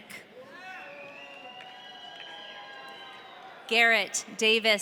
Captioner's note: audience cheering